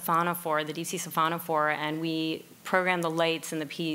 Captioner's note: speaking in foreign language